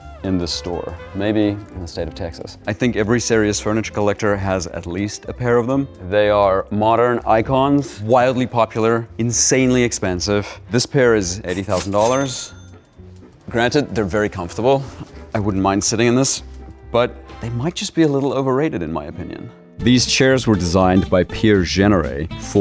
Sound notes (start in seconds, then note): 11.5 cash register ka-chings